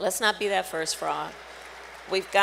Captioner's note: applause